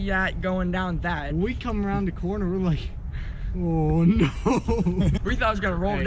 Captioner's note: laughing